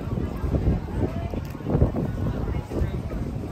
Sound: wind blows

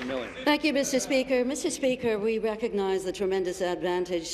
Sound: applause

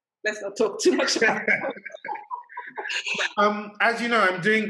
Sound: laughter

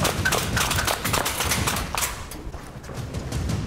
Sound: gunshots; intense action music

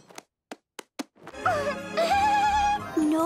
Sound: laughing

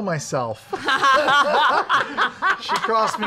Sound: laughter

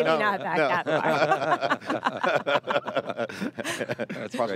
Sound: all laughing

